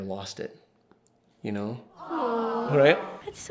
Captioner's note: voiceover